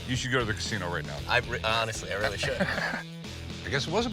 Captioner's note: chuckles